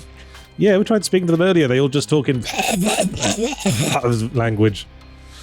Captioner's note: mouth noises